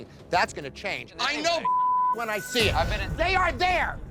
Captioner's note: beep